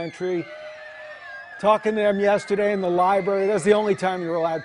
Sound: cheers and applause

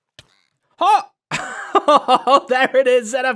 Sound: laughs

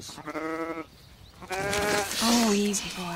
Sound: calf moos

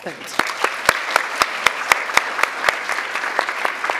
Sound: audience clapping

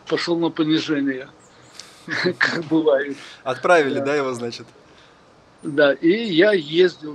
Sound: laughing

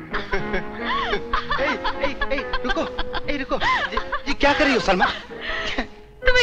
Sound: Salma laughs

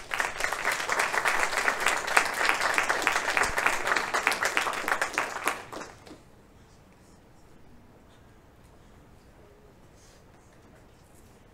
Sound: applause

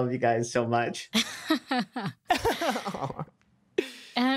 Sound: laughter

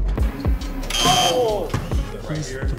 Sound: buzzer buzzing

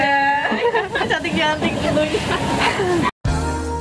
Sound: laugher

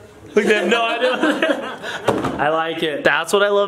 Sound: laughing

